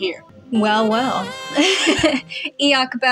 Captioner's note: laugh